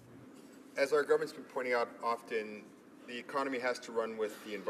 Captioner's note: speaking in french